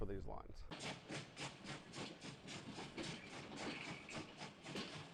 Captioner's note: train chugging